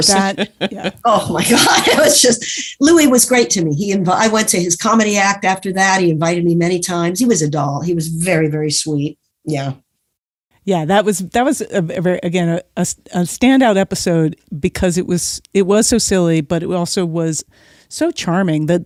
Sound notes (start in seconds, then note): 0.0 guffaw; 0.0 laughs